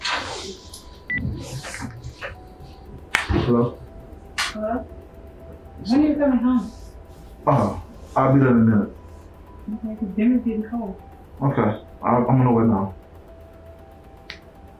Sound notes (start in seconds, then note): 0.5 phone beeps